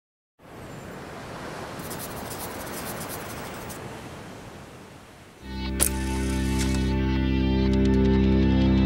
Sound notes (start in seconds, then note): 0.4 waves crashing; 5.8 camera clicks